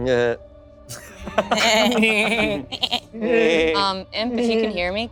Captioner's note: laughing; group laughing